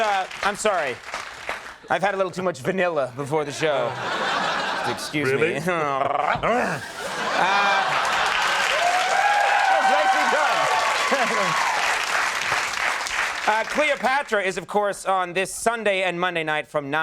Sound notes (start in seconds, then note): 3.4 laughter; 6.1 growls; 8.8 applause